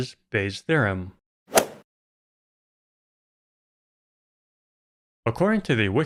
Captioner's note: golf ball hit sound